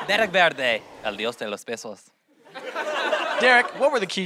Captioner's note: speaks spanish